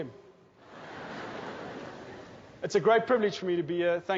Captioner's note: laughing